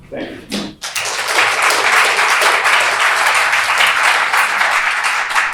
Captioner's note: applause